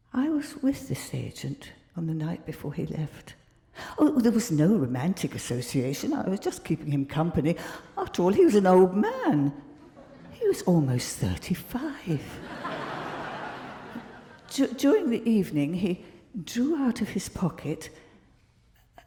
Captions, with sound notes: I was with this agent on the night before he left, oh, there was no romantic association. I was just keeping him company I've told you he was an old man. He was almost 35. (crowd laughing) During the evening, he drew out of his pocket,